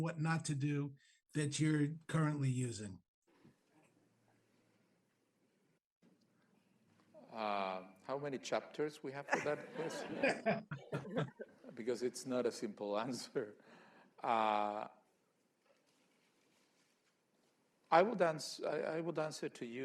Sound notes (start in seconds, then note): 9.2 laughter; 16.8 laughs